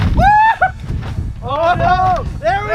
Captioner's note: exclaims loudly